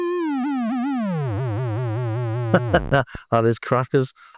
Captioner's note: laughs